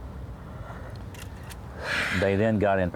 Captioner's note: sighs